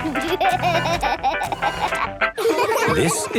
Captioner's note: upbeat music; giggling